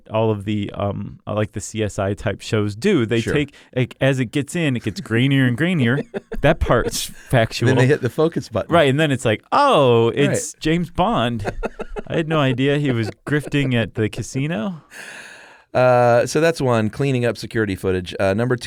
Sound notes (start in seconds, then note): 5.8 laughs; 11.1 laughs